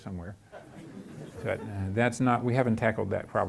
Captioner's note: chuckling